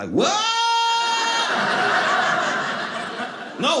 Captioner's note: audience laughing